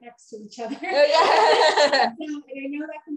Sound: laughing

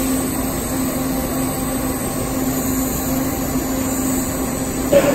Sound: welding torch sizzling

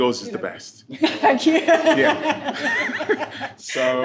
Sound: laughing

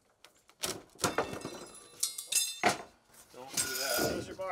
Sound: tools clanging

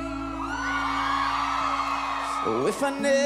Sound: audience cheering

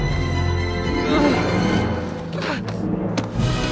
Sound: grunting

